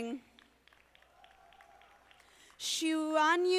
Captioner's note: audience applauding